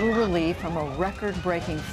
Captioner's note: sirens blaring